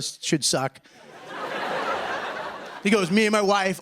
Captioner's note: laughter